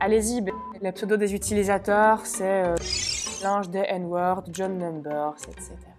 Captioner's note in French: bip